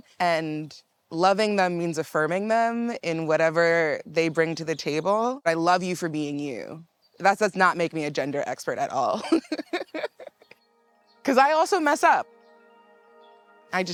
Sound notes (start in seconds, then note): 9.1 laughs